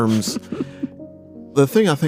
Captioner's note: laughs